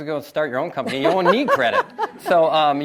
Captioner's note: laughs